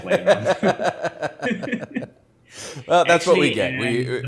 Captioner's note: both laughing